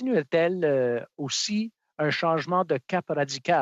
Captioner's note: speaking French